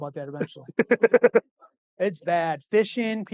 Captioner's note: laughing